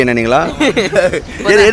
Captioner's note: laughs